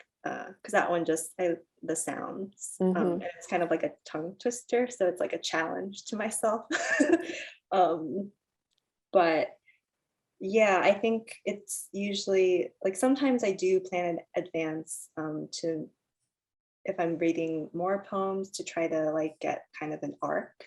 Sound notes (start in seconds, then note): 6.9 chuckles